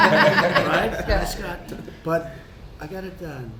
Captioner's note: laughter